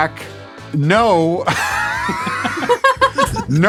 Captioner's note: laughs; all laugh